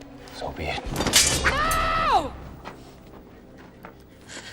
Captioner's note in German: Mercedes schreit